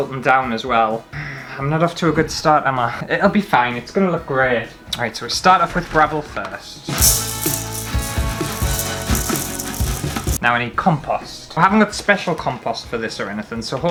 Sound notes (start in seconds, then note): 7.0 gravel Sounds